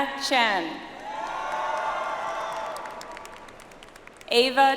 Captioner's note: audience applauds